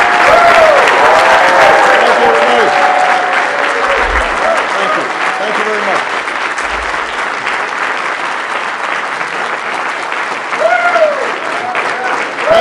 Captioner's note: applause